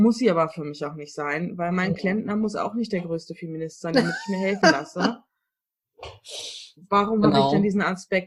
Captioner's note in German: lacht